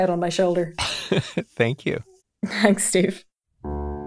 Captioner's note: laughs; classical music